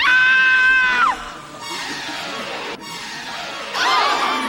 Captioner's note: people laughing and talking; loud screaming; dramatic intense music; people yelling